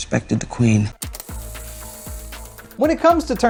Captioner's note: tape whirring